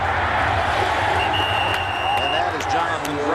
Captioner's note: whistle blows